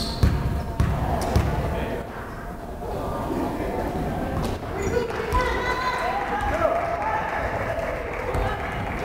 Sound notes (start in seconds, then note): 5.0 crowd applauding